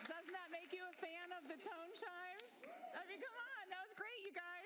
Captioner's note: applause